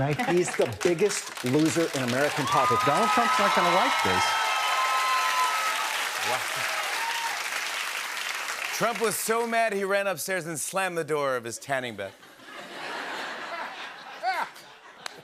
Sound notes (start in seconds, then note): 4.4 cheering and applause; 12.2 laughter